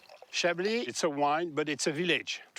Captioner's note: with French accent